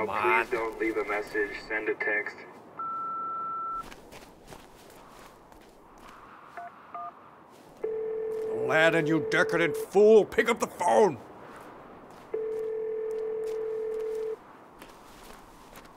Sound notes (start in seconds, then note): 2.8 long beep tone; 7.8 phone ringing